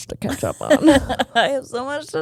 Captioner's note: giggling